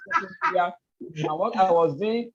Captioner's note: laughs